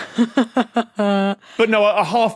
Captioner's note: snicker